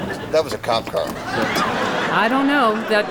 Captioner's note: laughter